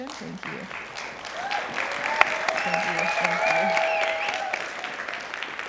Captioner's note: applause